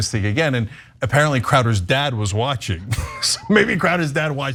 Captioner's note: laugh